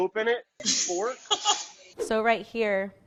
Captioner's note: laughs